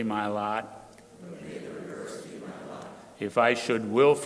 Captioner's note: crowd repeating